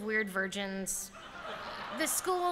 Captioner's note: laughter